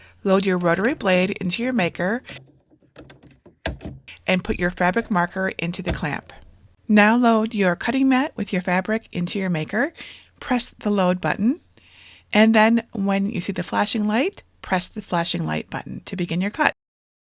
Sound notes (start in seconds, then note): 2.6 clasp clacking